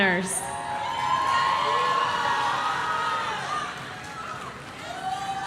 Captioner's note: audience shouting